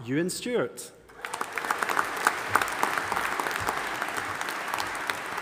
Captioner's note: audience applauding